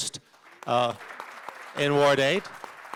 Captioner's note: applause